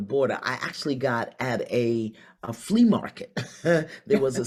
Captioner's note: laughs